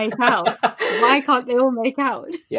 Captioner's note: laughs